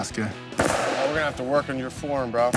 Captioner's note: gun firing